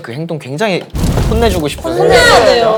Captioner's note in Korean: 부글부글